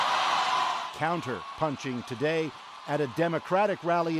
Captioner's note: cheers and Applause